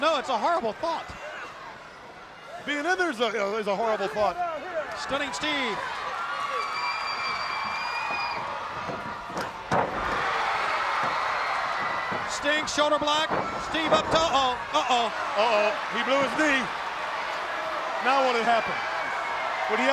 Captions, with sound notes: I know. It's a horrible thought. Being in there's a horrible thought. Stunning. Steve. (canvas banging) Sting shoulder block, Steve up top, Oh. Uh, oh. Uh oh. He blew his knee. Now what'll happen? (crowd cheering)